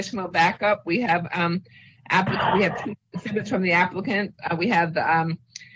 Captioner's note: distorted audio